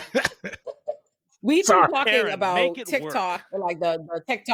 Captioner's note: laughing